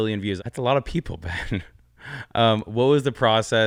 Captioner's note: laughs